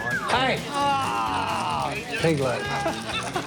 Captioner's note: laughing and chattering; man groans; laughter